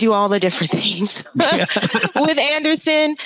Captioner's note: laughing